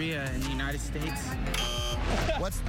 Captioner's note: buzzer